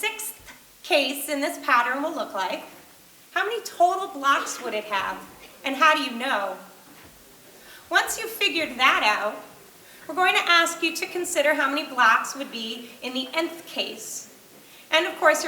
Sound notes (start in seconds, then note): none